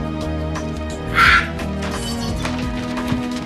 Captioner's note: screams